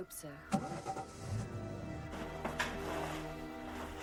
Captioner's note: car engine starting; clothing rustling